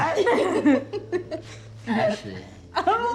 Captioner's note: friends laugh